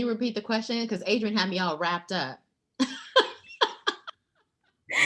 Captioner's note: laughing